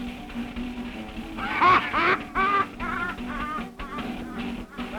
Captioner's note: loud laughter